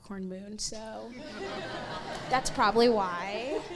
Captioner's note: crowd laughs